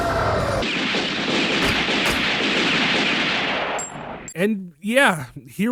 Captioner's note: gunfire